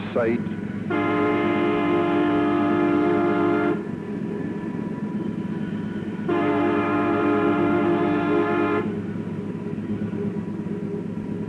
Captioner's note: train Whistle